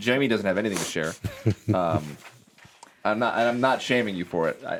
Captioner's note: chuckles